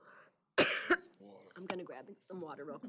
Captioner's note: coughing